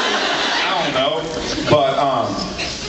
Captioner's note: drawls